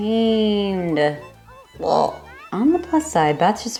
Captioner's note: frog sound